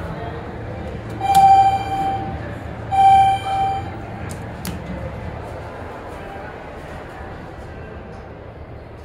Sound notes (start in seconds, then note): 1.1 elevator chime x2